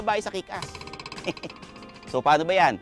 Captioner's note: laughs